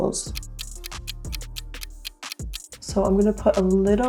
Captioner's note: ticking